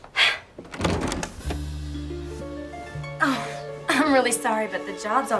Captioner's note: exhales sharply